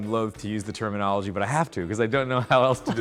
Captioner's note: chuckling